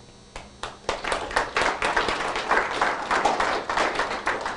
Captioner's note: applause